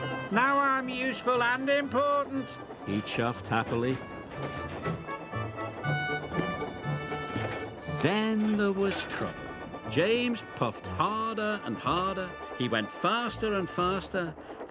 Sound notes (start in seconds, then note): 4.2 train chugging